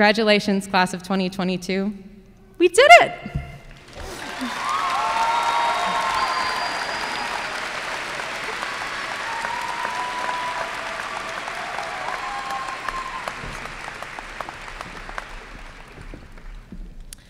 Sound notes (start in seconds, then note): 3.7 applause and cheers